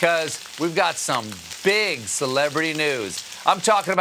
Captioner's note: sizzle